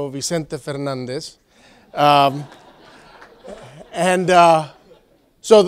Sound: laugh

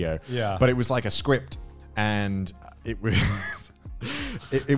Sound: laughs

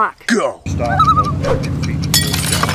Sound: loon call

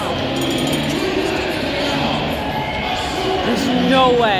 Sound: bell rings. Crowd noise

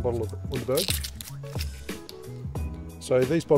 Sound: paper tearing

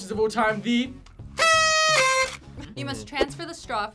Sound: horn honks

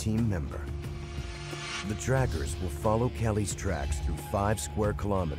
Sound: voiceover

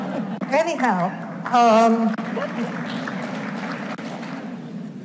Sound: audience applauds

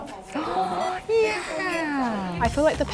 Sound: gasps

